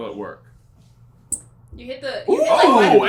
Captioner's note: squeak